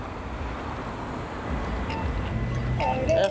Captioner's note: beeping